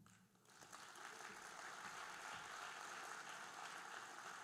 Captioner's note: audience applauding